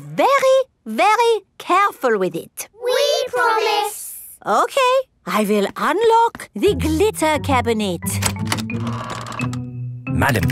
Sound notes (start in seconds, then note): none